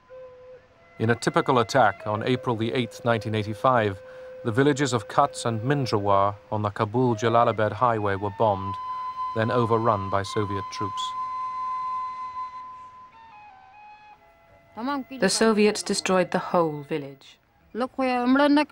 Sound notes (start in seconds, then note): 12.5 woman speaking Afghan